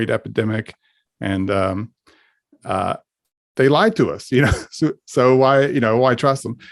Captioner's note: laughs